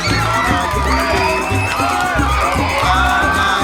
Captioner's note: cheering